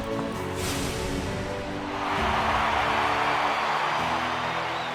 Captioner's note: cheering